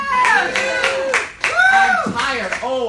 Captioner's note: cheering and applauding